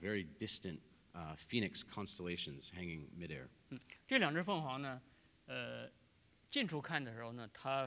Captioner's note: speaking in Chinese